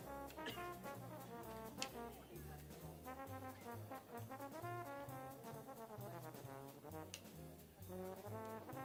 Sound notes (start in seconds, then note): 3.1 people chattering; 3.1 upbeat jazz music continues